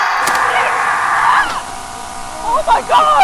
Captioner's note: John screams!; screaming